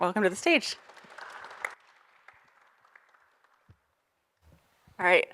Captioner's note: audience applauding